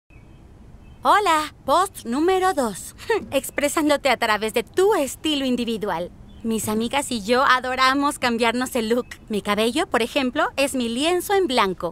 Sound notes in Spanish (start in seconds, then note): 2.9 ríe suavemente